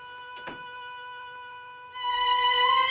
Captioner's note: door thumping; suspenseful music